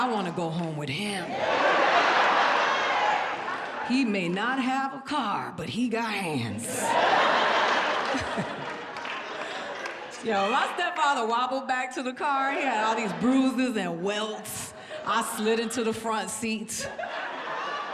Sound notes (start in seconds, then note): 1.2 audience laughs; 8.9 chuckles